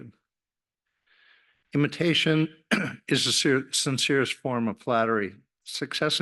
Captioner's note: cough